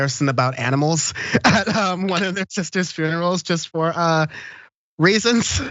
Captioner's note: laugh